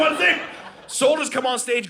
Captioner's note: audience laughing